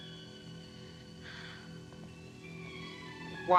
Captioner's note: sighs